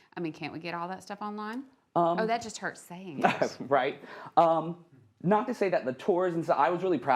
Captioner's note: laughs